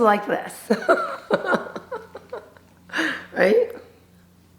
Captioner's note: chuckles